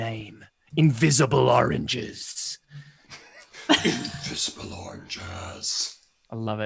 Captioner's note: deep voice